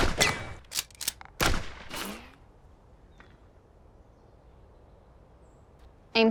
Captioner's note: gunshot; cocks rifle; gunshot